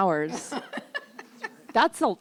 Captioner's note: laughs